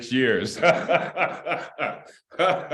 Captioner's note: laughter